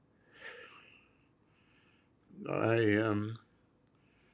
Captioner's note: sighs